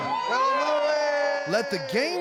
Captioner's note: everyone cheering